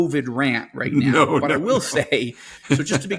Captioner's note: laughs